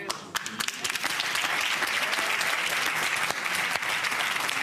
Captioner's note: cheers and applause